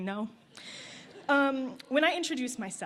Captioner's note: laughter